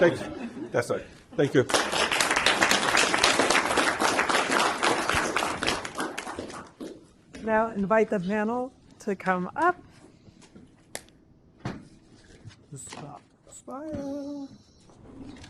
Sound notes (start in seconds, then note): 1.5 applause